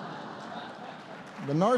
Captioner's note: laughter